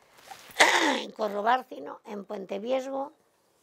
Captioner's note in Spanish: Carraspea